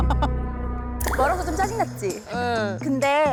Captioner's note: serious music; unexpected calm sound effect